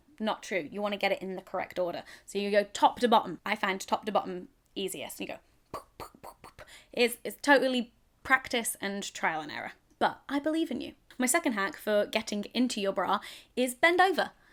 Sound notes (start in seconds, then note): 5.7 popping